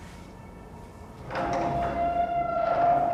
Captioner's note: door screeching